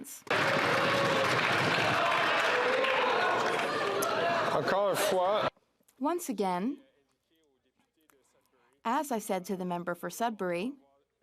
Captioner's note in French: applaudissements